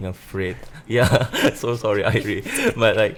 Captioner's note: laughs